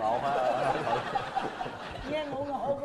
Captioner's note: laughing